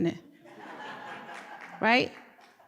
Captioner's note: laughter